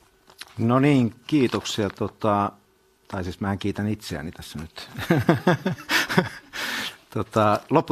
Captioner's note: naurua